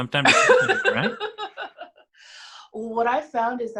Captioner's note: laughs